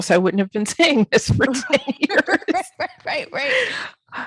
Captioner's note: laughing